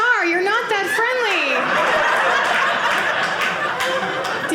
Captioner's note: audience laughing